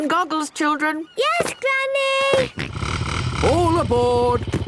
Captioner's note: snort